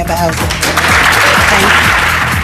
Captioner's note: applause